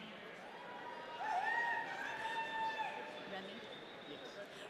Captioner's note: audience cheering